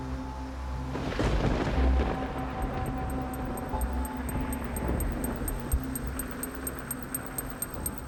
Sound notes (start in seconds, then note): 0.0 somber music; 1.0 thunder crashing